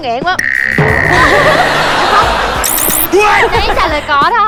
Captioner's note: laughing